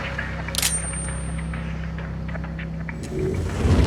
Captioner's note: knife clanging